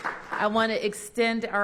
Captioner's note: applause